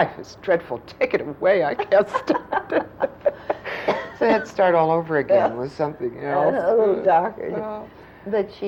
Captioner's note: laughter